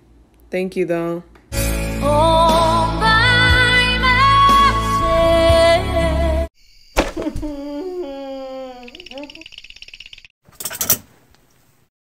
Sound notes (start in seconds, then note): 7.2 sobbing; 7.4 shivering